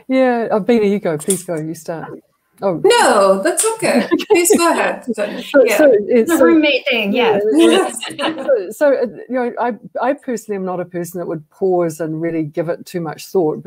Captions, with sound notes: >> Beena you go, please go. You start. >> No, that's okay. Please go ahead. >> The roommate thing. [LAUGHTER] >> I personally I'm not a person that would pause and really give it too much thought